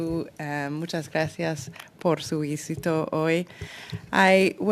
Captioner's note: speaking french